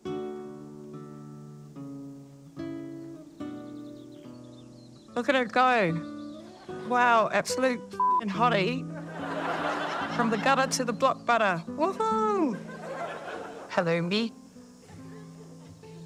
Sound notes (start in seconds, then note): 0.0 romantic music; 8.9 audience laughs